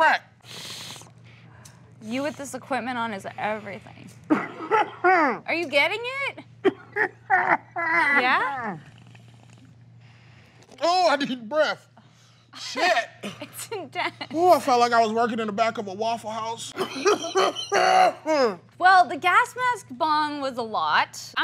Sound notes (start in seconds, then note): 0.4 inhaling; 4.2 coughing; 6.6 coughing; 16.7 coughing